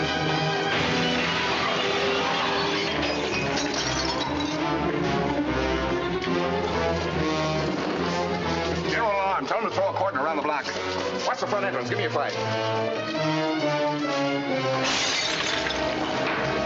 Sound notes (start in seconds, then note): 0.7 glass shatters